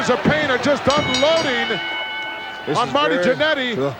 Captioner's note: bell ringing